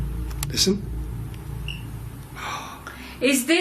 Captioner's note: gasps